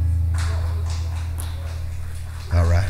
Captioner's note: crowd clapping